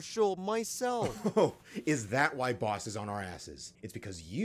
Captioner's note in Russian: смех